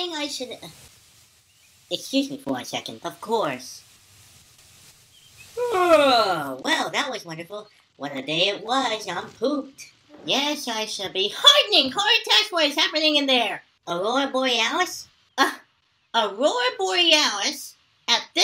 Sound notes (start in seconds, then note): 5.5 yawns